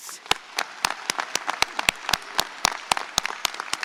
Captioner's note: audience applauds